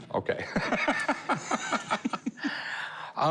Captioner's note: laughing